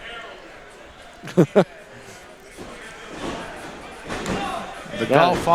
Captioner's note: dramatic laugh